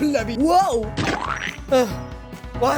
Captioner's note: splat